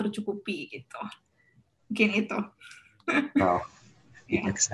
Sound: chuckles

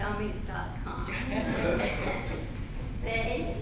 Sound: laughter

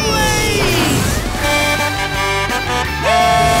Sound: Blaze honking

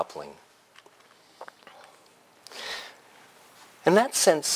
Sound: pause

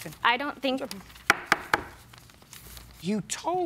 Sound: raps desk

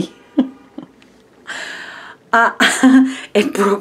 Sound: chuckling

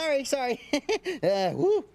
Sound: chuckles

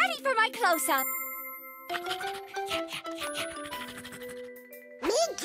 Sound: panting excitedly

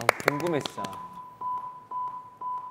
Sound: nervous

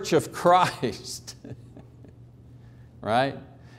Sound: chuckling

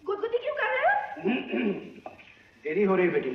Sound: clears Throat

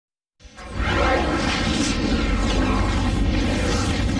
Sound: dramatic twister and helicopter sounds

